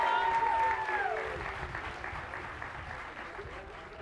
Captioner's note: cheers and applause